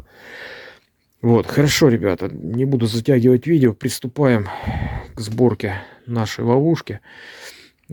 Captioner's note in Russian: вздыхает